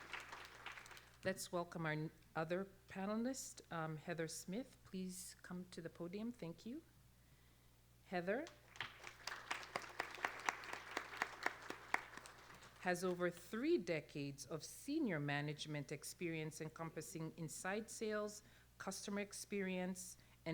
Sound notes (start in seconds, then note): 8.4 applause